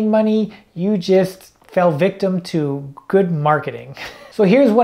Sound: laughs

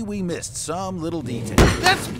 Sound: slam

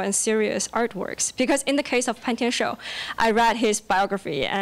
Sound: foreign language

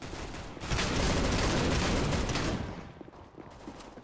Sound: firing

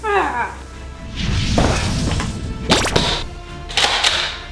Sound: whooshing

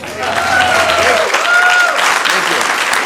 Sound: applause

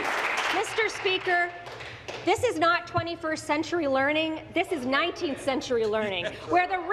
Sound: applause

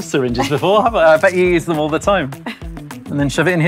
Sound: laughs

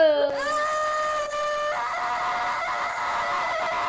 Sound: screams

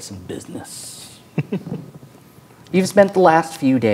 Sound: chuckles

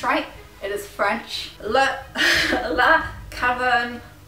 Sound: laughs

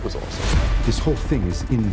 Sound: graphics whooshing

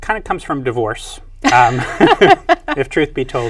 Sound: both laugh

